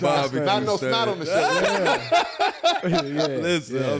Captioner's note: all laugh